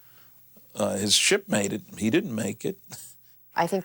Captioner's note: chuckles